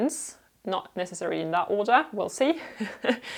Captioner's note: laughter